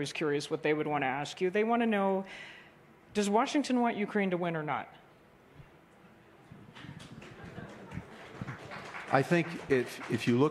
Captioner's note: applause